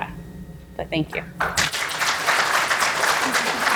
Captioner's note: applause